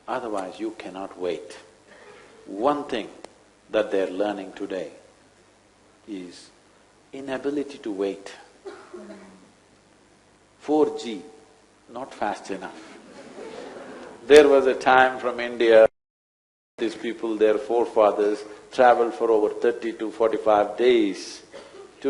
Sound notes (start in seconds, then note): 12.8 few laugh